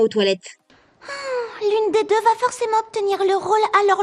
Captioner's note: sigh